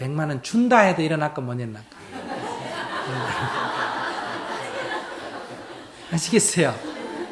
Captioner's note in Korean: 청중 웃음